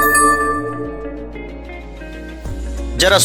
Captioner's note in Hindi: घंटी की आवाज़